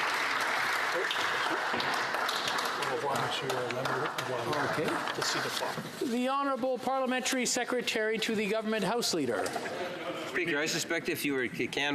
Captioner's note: some Applause